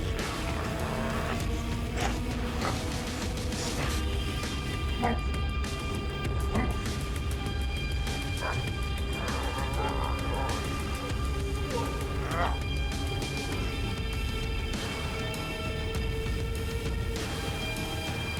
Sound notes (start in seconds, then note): 0.1 creature grunting; 2.5 blows thudding; 4.5 mellow upbeat music; 6.6 blows thudding; 7.9 both grunting; 12.5 mellow upbeat music